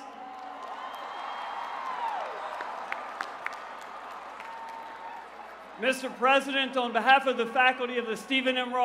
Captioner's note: cheers and applause